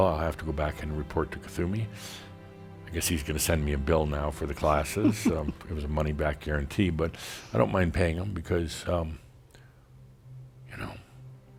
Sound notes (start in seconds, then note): 4.6 giggles